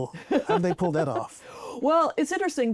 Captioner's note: laughs